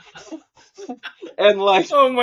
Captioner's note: laughing